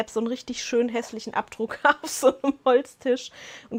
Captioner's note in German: gelächter